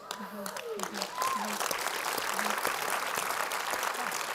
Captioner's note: applause